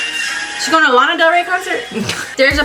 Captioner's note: laughs